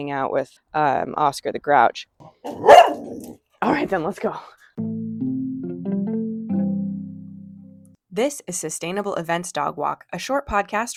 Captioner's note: dog bark